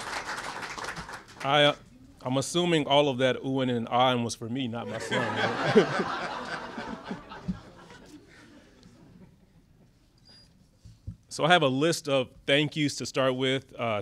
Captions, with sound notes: I am assuming all of that oohing and ahing was for me, not my son? (laughter) So I have a list of thank you's to start with.